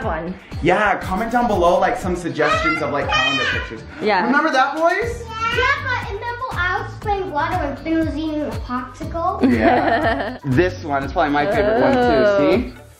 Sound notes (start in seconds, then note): 3.9 boys yelling; 9.4 laughs